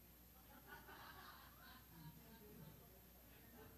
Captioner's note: laughing